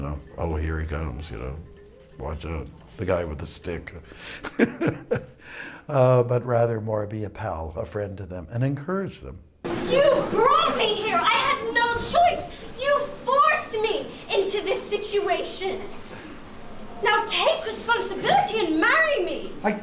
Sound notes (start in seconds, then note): 4.0 laughs